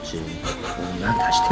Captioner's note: laughs